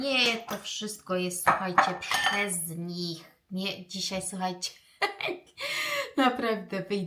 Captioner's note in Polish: śmiech